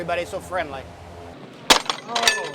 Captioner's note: clanking noises